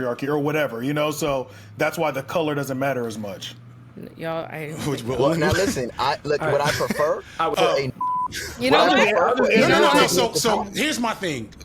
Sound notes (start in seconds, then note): 8.0 beep; 8.3 all chattering